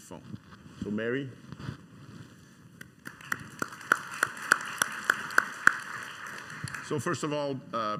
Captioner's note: clapping hands